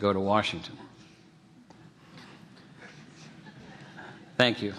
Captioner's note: laughter